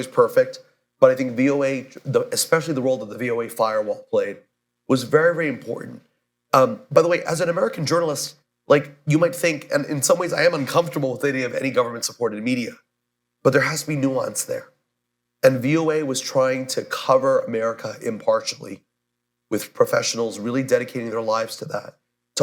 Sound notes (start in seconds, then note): none